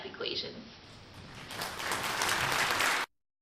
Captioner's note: sound effect- applause